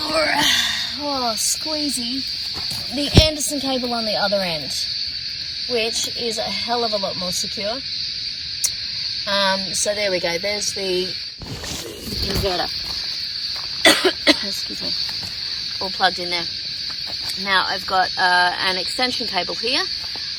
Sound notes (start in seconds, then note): 13.8 coughs